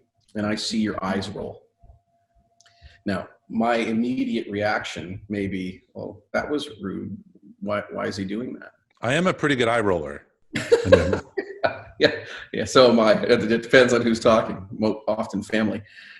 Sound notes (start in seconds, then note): 10.6 laughing